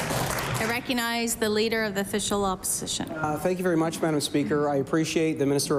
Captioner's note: applause